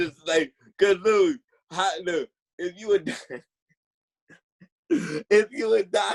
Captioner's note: laughing